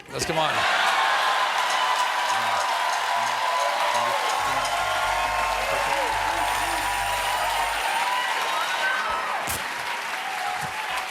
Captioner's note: cheers and applause